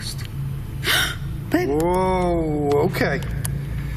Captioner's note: loud gasping